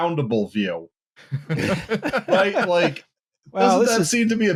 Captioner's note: laughing